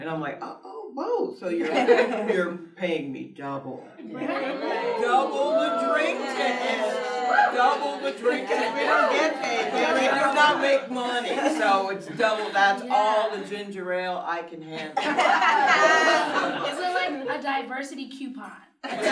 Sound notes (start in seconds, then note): 1.6 everyone laughs; 5.1 cheers; 14.8 everyone laughs